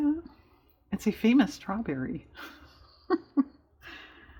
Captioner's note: laughs